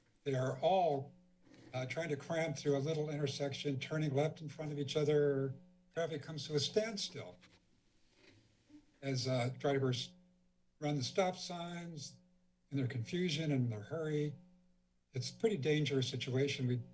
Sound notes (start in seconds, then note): 8.1 creaking sound